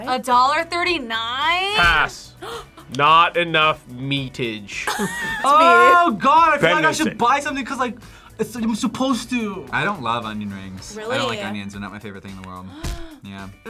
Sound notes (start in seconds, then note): 2.4 React gasps; 4.8 React laughs; 12.7 React gasps